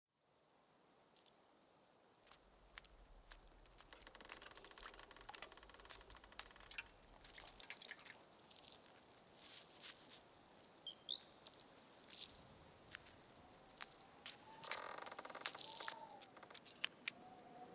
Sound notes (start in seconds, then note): 5.7 sloshing water; 9.1 rustling; 10.8 chirping; 14.5 creaking